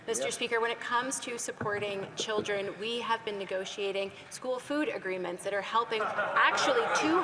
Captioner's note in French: voix de l'interprète